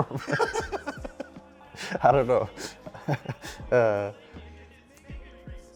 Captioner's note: laughs